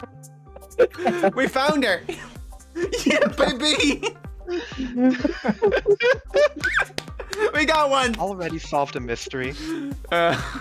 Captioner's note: laughter